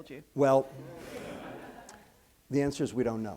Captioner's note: laughter